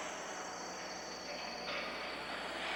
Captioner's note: none